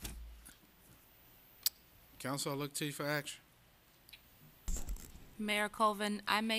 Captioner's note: gavel